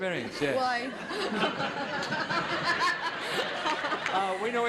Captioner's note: audience laughing